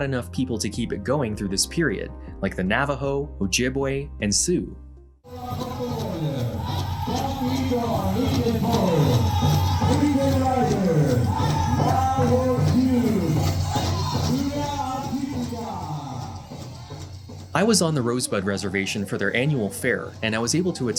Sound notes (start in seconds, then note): 12.2 announcer speaking; 12.2 drums and singing